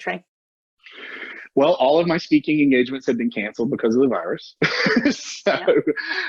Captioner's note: laughter